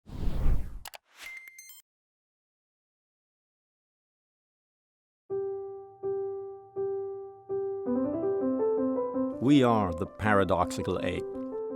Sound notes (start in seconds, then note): 1.1 electronic typing and beeping; 5.3 bright piano music